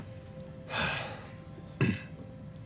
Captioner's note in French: soupire